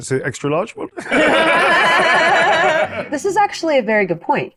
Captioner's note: everyone laughs